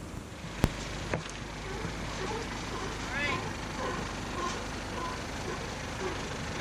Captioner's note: sea lions barking